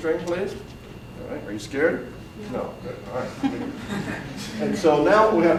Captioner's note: audience chuckles